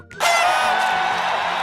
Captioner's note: cheers